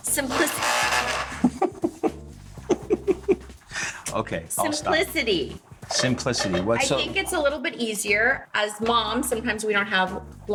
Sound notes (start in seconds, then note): 0.2 processor blending; 2.6 Dean laughs